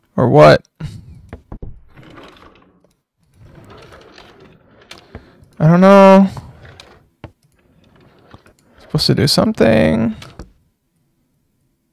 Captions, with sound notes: or what? (drawers sliding) I don't know. It's supposed to do something